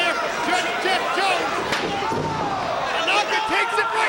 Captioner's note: chair clunks